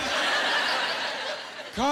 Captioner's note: laughing